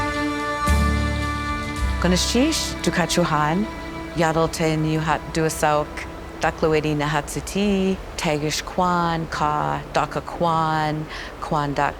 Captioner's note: speaks Tlingit